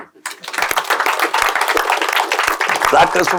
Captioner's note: loud applause